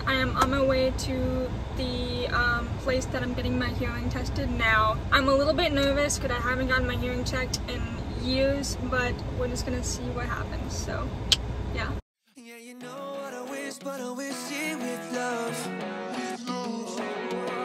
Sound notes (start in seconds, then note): 11.1 clicks tongue